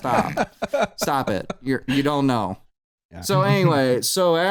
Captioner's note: laughter